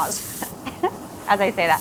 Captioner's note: coughs and laughs